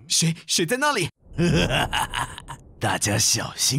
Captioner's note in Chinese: 嘲笑